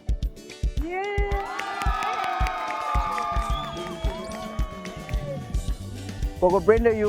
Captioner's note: crowd cheering